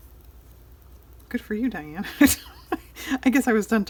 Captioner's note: laughs